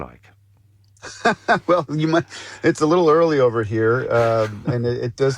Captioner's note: laughs